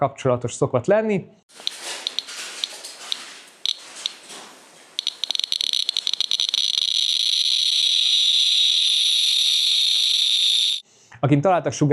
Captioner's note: geiger-Müller counter clicking